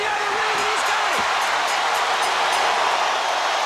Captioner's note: bell ringing; crowd cheering